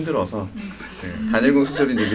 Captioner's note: laughter